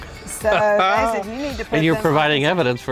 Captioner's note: laughs